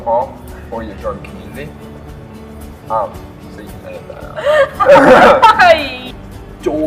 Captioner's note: laughter